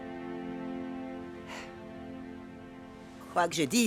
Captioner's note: sighs